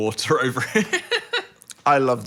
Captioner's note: laughing